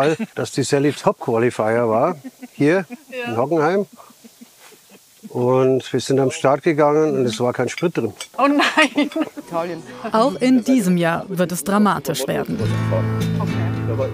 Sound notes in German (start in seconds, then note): 8.4 lacht; 13.0 Lockere Musik